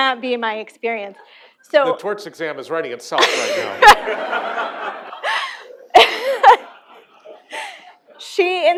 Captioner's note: laughter